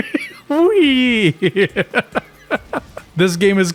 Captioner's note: small laugh; laughs